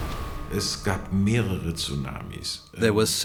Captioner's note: speaking German